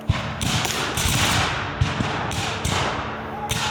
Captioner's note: guns fire